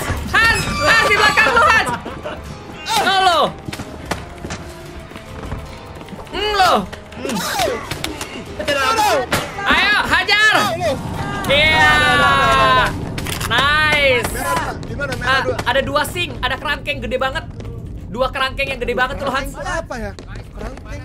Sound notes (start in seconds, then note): 0.5 laugh; 7.7 scream